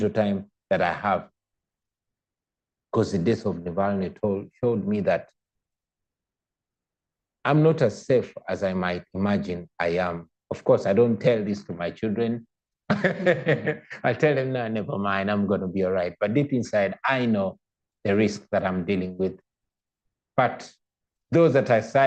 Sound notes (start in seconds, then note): 12.9 laughter